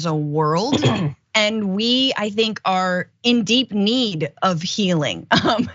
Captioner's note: laugh